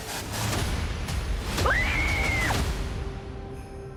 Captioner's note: screaming